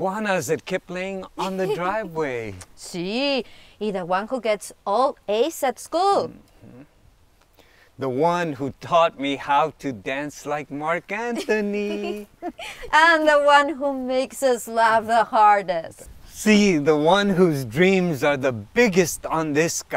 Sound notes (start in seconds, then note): 1.3 Ana chuckling; 11.3 abuela laughing